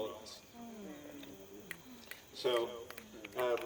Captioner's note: audience snapping fingers